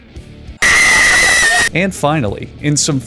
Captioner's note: violent scream 4